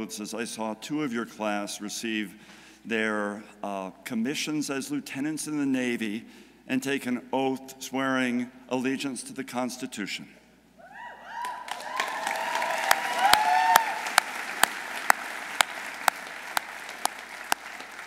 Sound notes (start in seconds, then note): 11.0 audience cheering; 11.4 audience applauding